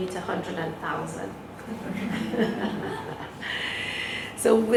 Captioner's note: laughter